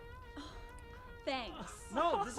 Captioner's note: laughs